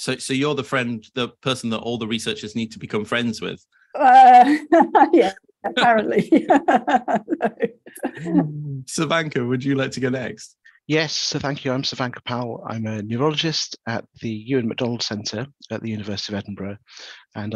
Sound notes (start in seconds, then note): 4.5 laughs; 6.3 laughs